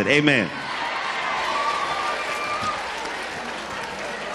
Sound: crowd cheering

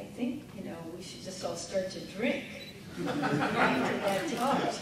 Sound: audience laughing

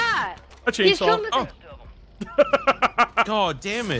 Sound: skull laughs

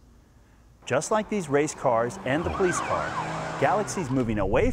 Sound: engines rev, siren wailing

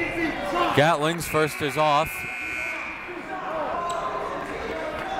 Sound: buzzer

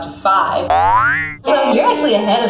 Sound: twangs

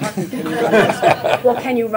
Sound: laughter

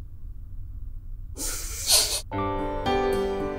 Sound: hushing

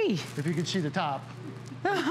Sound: laughter

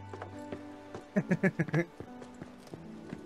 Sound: laughs

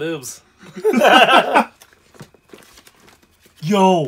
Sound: laughter

